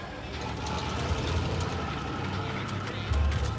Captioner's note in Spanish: sonido del motor